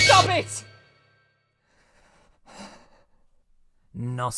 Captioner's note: shivering breaths